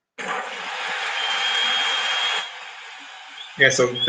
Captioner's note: crowd cheering